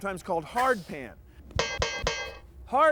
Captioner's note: clanging